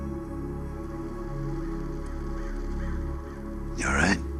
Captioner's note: bird cawing